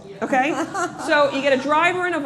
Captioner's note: laughter